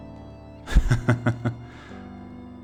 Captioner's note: laughter